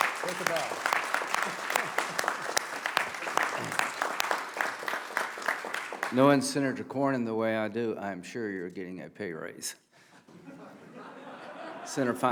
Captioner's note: applause